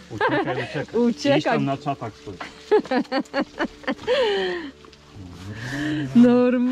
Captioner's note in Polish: śmiech